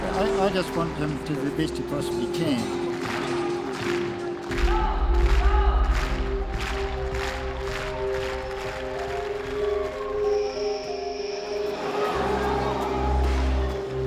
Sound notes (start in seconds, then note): 4.7 crowd claps rhythmically; 7.4 tense string music; 11.4 crowd exclaims